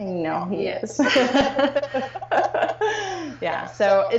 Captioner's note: laughing